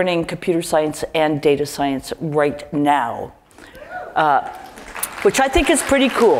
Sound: applause

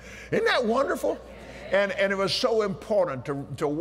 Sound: audience Agrees

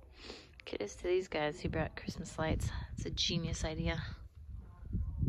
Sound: sniffs

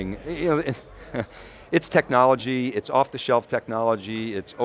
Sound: laughs

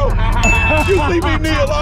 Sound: laughs

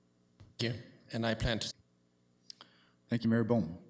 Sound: audio drop

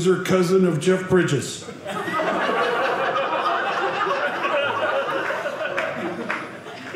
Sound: audience laughing

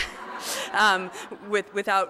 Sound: audience laughing; laughs

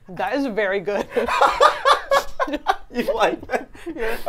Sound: laughs

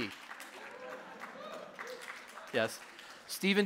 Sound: audience cheering

